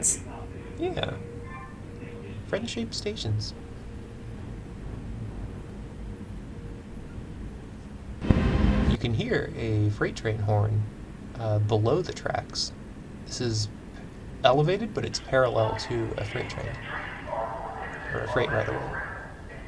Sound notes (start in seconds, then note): 8.3 train horn honk